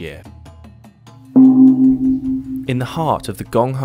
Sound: gong sounds

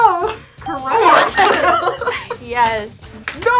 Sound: laughs

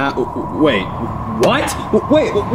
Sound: wind whooshing

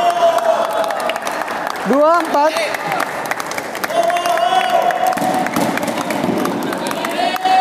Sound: applause

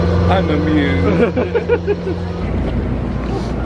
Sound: laughs

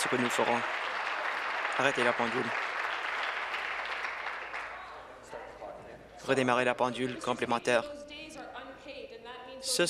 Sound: applause

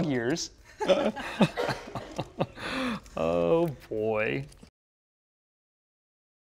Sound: laugh

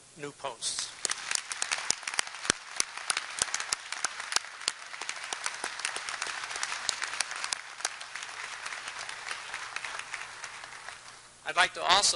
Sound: applause

